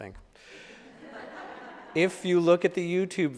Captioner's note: audience laughing